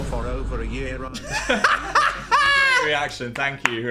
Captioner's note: Dan laughing